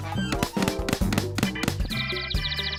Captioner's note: none